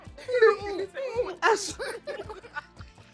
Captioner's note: everyone laughs